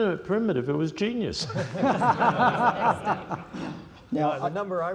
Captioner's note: laughter